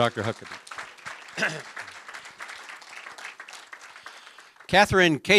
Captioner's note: applause